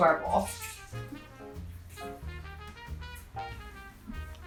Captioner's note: orange squeezing